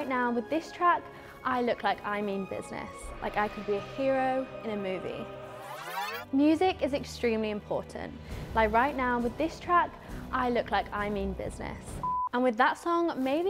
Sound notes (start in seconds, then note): 5.6 tape rewinding; 7.6 dramatic music; 11.5 film beeping